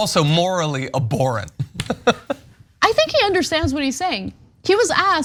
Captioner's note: laugh